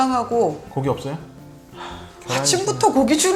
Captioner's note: sigh